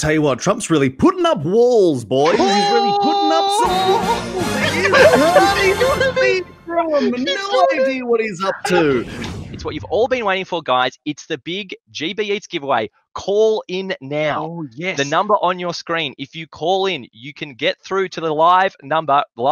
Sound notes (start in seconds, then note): 3.6 dramatic music; 4.6 all laughing